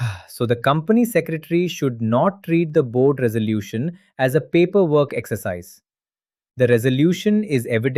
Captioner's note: sighs